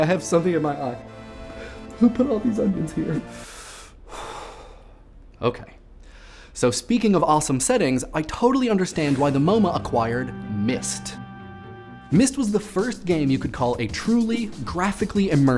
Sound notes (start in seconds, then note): 3.3 breathes deeply